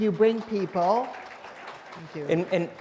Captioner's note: applause